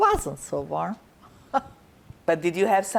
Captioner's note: laughing